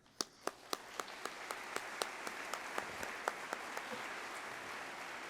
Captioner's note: applause